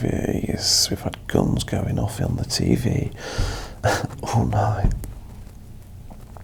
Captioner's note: chuckles